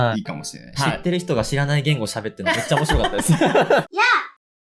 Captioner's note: laughs